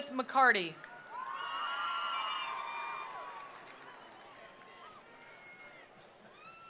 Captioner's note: attendees applauding; attendees cheering